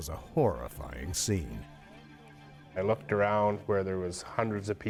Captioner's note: voiceover